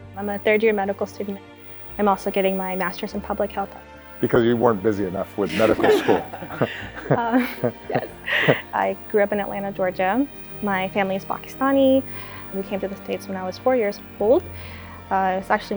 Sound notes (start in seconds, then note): 8.0 chuckles